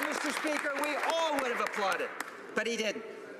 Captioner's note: applause